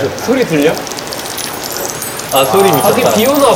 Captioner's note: the waves of the oil getting fried hit our eardrums